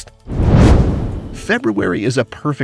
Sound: comet whooshing

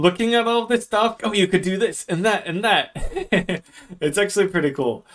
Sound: laughs

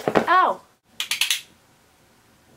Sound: blade clicks

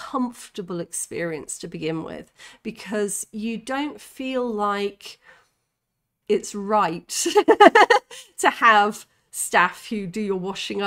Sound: laughing

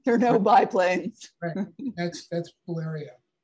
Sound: chuckling

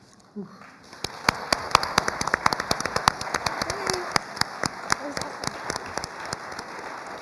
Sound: applause

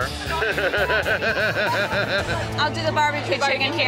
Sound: laughs

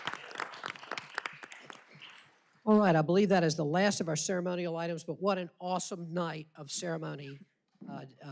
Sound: applause

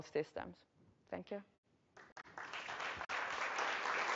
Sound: applause

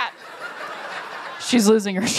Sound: laughter

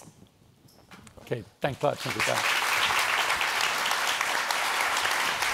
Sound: applause

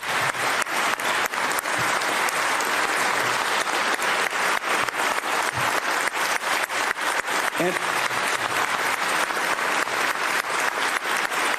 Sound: applause

